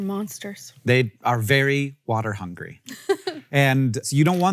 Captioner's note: Rachel laughs